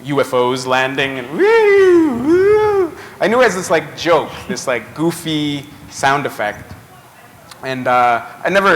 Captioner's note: voice improvisation